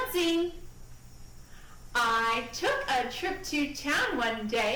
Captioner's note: speaking in rhyme